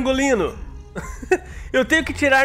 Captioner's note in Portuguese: risos